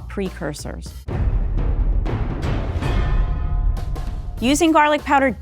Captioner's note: dramatic thumping